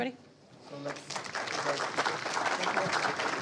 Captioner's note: crowd clapping